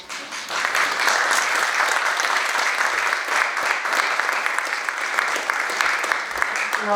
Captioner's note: audience applauding